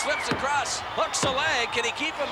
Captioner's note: hands thudding